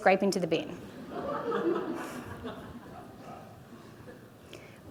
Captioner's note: audience laughing